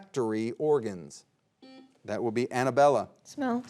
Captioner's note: buzzer beeps